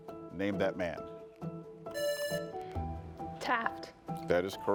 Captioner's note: lively music; buzzer buzzing